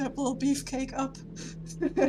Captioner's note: nervous laugh